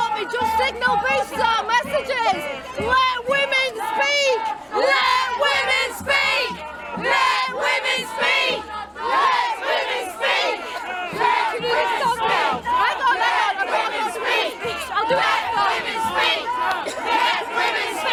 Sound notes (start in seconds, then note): 5.1 chanting